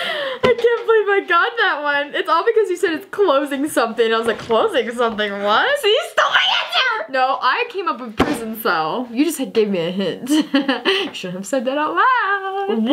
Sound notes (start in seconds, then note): 10.5 laughs